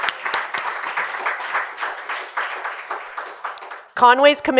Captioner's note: applause